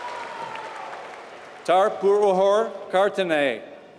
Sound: applause

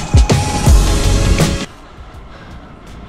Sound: heavy breathing

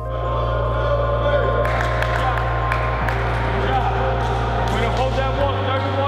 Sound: clapping and crowd talking

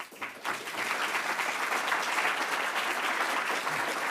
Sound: audience applauding

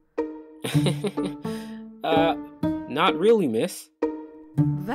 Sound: chuckles

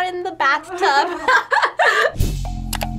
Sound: laughs

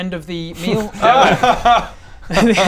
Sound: distrustful noises

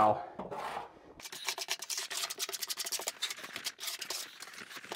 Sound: trowel scraping

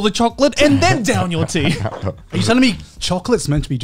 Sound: laughing

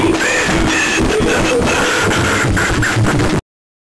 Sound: maniacal laughter

